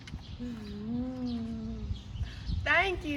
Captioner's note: royal moans